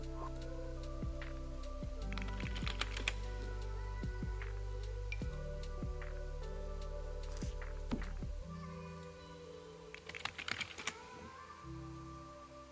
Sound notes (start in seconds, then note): 1.8 typing and Sims object placement sounds